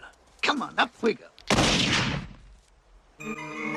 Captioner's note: gunshot